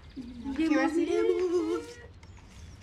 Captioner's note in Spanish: Exclamaciones